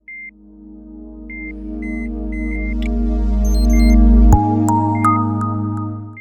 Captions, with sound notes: Suffering from the worst symptoms of COVID-19, Miguel Rivera came to North Suburban Medical Center for care. (monitors beep) (calm electronic music)